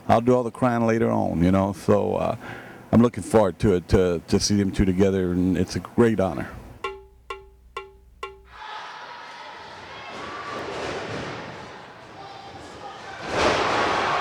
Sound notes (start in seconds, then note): 6.8 drum music; 8.5 audience cheering